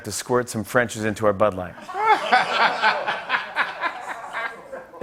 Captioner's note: laughter